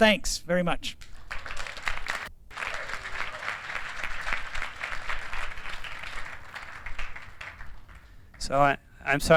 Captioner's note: applause